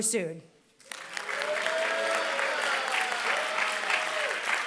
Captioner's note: applause